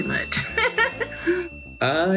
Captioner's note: laughing